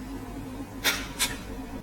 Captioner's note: snap!